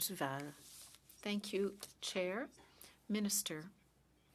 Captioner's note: speaking French